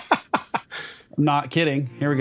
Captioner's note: laughing